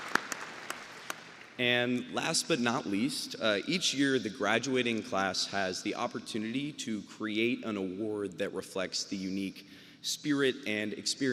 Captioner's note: applause